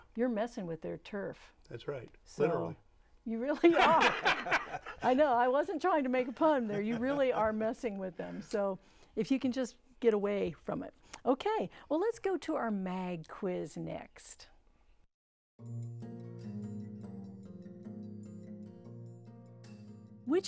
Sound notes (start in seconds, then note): 6.3 laughing